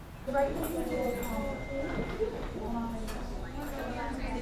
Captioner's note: indistinct background chatter